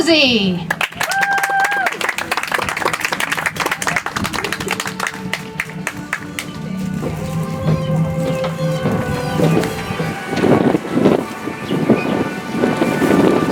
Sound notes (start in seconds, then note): 4.4 audience applauds; 10.9 soft music